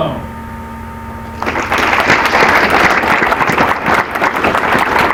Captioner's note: applause